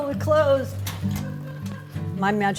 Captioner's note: woman laughing